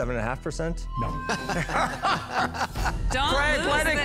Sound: laughter

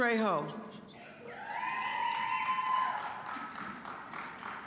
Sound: scattered cheering

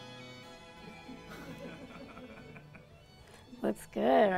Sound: man laughs

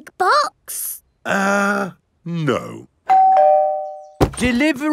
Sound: doorbell rings

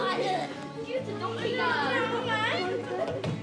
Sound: children chatter

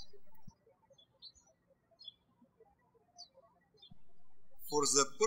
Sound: birds chirping

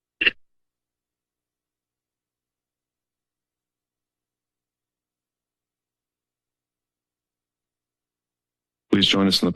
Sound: silence

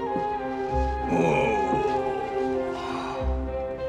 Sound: groans

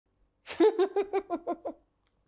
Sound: laughter

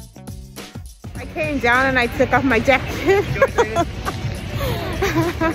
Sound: laughs

